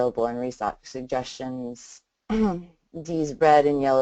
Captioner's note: clears throat